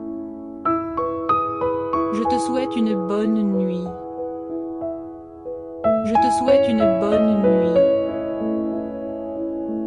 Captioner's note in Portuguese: francês